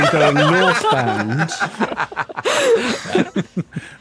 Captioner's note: group laughing